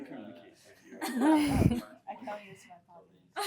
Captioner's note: laughter